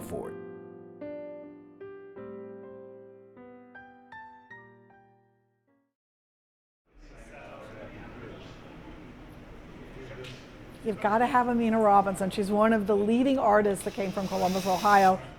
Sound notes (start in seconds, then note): 7.0 room chatter